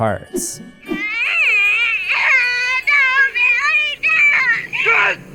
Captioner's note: crying